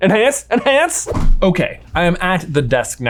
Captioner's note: graphics whooshing